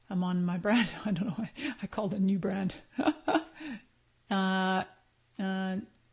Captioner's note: laughs